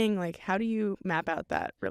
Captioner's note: none